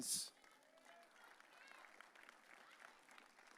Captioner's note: audience cheering